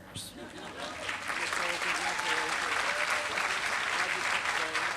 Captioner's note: applause